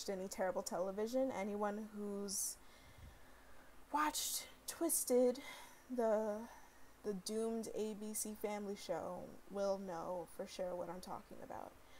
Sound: sigh

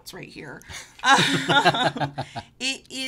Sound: laughing

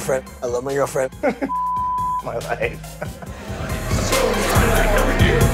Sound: beep; laughs

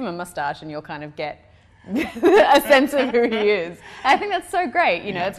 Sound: laugh

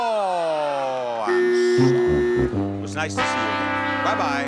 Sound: buzzer buzzes

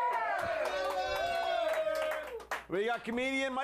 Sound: audience cheering

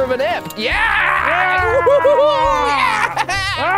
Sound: screaming

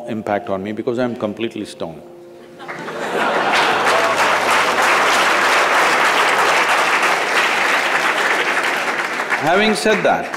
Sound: laughter/Applause

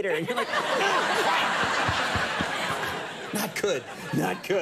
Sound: crowd laughing

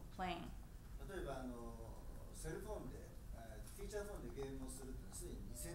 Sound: speaking in foreign language

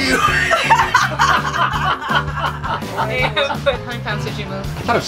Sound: everyone laughs

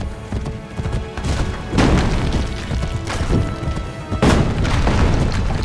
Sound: horse sounds; cannonbals hitting the ground

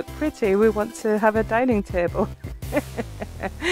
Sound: laughing

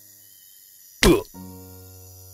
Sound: Henry grunts

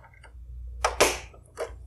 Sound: snaps

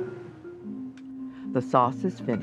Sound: voiceover

